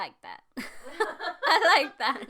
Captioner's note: all laugh